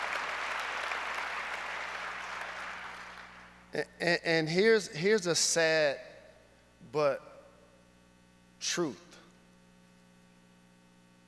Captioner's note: applause